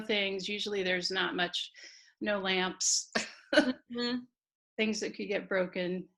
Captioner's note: laughing